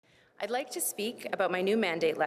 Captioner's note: speakiea french